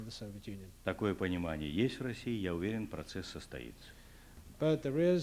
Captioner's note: non-english speech